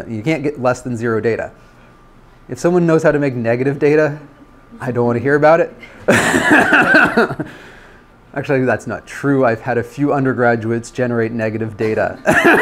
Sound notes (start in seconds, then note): 5.8 laughs; 12.1 laughter